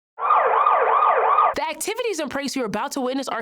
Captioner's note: police siren